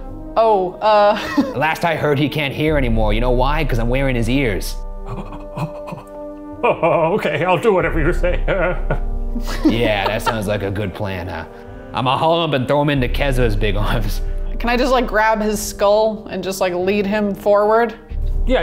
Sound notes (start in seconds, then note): 0.8 laughing; 5.1 gasping